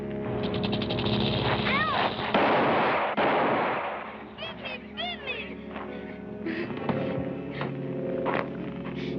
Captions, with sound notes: [Screams] [Gun shots] It bit me, it bit me!